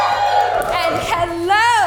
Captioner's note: audience cheers